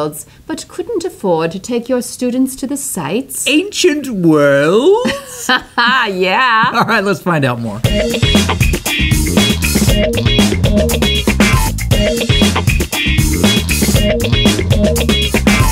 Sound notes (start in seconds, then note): 4.9 laughs; 7.5 funky music